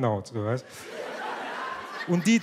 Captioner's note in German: Lachen